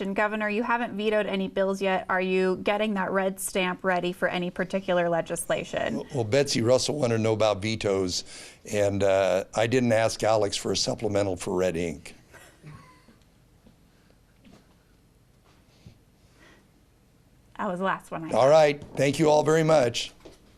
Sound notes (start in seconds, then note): 12.4 laughs; 12.4 woman laughs